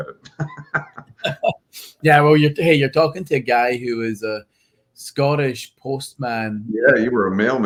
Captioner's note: laughs